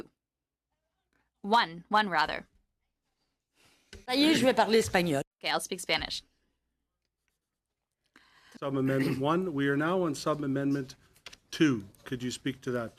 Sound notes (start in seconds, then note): 4.6 speaking French